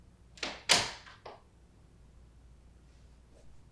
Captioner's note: door clicking